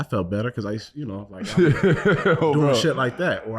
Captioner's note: laughing